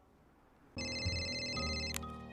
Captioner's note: phone Rings